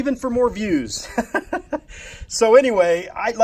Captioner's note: laughs